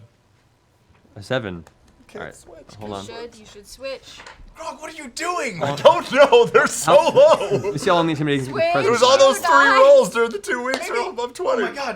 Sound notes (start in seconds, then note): 4.6 laughing